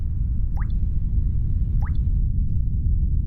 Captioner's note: wind blows